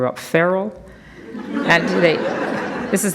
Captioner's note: audience laughs